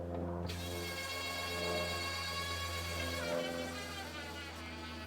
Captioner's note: drill whirring